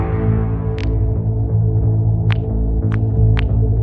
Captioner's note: cracking knuckles